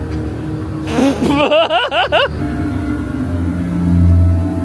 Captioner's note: laughs